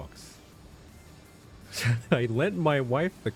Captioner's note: laugh